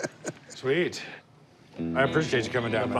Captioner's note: laughs